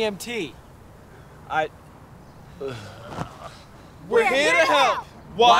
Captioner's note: groans faintly